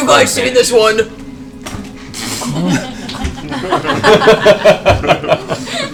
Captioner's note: all laugh